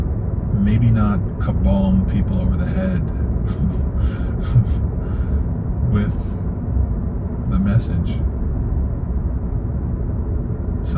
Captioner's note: laughs